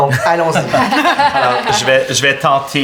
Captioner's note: laughter